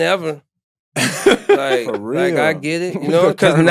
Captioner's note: laughing